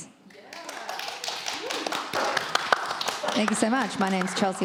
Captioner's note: crowd applauds